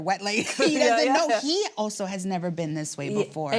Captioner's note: laughing